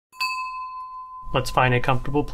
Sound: bell rings

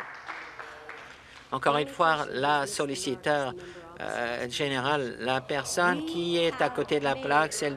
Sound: some applause

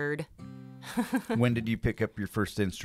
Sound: laughs

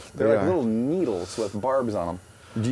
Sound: voiceover

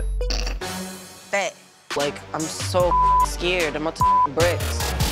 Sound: beep; hosts laugh

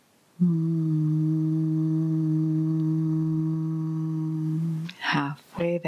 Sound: humming sound

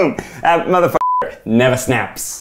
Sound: beep

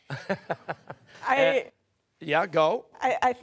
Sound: laughing

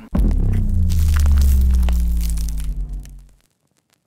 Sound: crackling

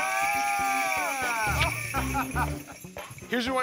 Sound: laughter

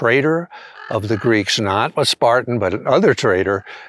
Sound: raven cawing

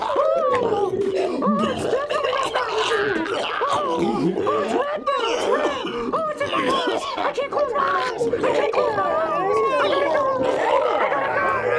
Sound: Roscoe barfing; mouse wailing and freaking out

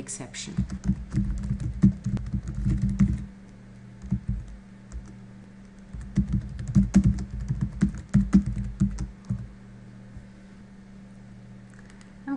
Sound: typing Sounds

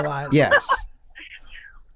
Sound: Kaitlin guffaws

